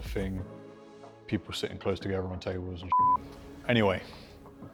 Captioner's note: beep